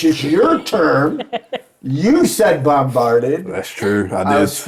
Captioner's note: laughing